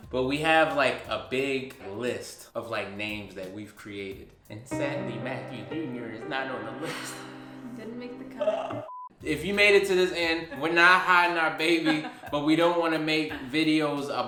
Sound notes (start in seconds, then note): 4.6 sad music; 8.8 beep